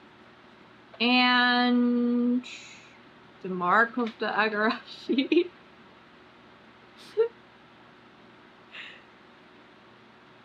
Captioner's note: laughs